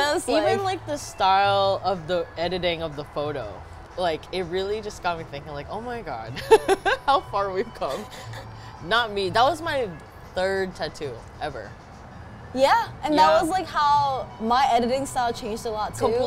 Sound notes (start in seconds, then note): 8.0 laughs